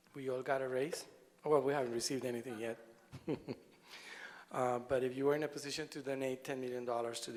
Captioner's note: laughter